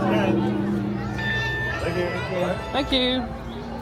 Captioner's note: Magic Band Reader chimes